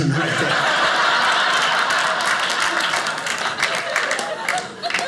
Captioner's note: audience laughing